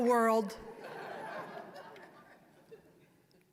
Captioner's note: audience laughing